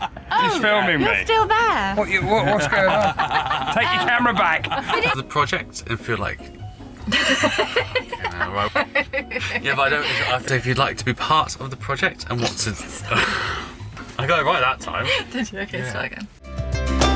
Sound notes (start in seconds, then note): 5.9 stumbles over words; 8.5 laughing